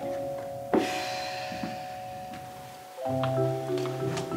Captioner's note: sighing; upbeat music